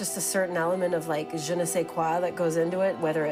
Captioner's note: speaking in a foreign language